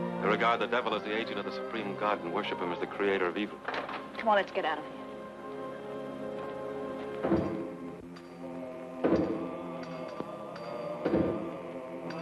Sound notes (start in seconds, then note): 5.8 suspenseful music; 8.4 people chanting